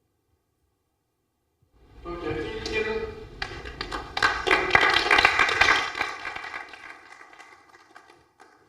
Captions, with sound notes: OK. Thank you. [APPLAUSE]